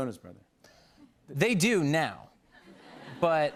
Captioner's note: light laughter